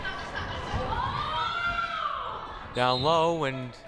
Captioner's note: crowd shouting